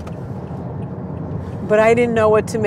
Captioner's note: turn signal ticking